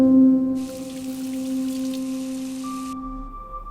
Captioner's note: water running